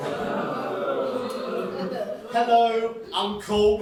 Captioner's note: general audience disgust